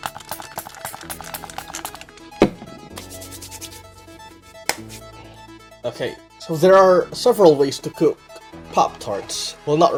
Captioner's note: spray sound